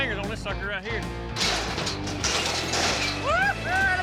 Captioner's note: cage closes; shouting